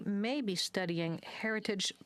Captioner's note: speaking French